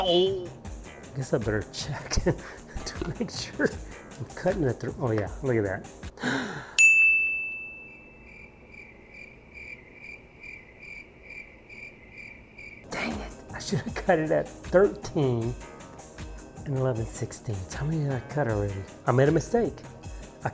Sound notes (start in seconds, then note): 6.2 gasp; 6.8 ding, crickets